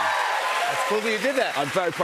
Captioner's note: cheers and applause